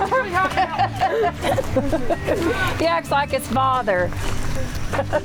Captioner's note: laughing